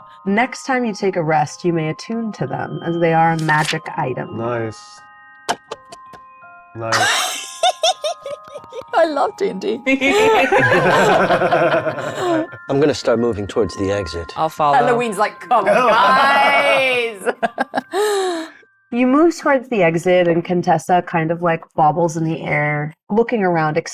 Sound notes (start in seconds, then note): 6.9 giggles; 10.0 everyone laughs